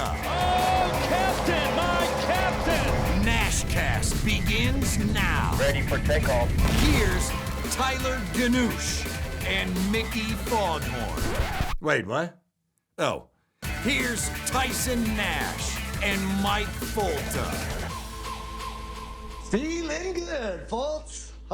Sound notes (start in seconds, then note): 10.8 record scratches